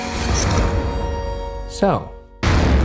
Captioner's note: screen beeping